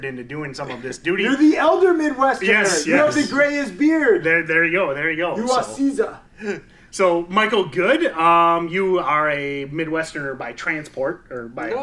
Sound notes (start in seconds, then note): 5.8 imitates foreign accent; 6.5 laughs